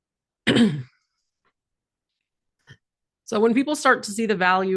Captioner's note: clears throat